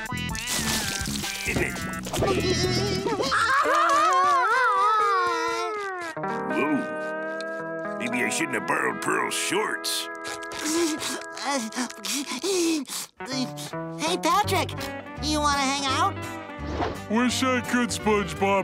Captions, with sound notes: Isn't it? [crying] Whoa. Maybe I shouldn't have borrowed Pearl's shorts. [whimpering] Hey, Patrick. Do you wanna hang out? Wish I could, SpongeBob,